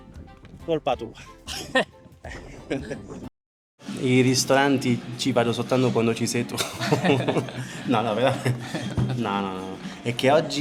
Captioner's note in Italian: risate